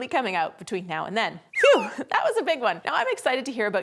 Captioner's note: low whistle sound effect